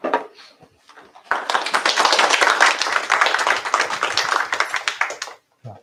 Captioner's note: applause